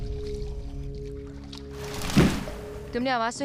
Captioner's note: thud